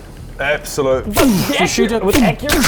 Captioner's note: boosh